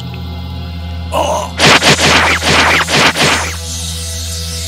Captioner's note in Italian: gemito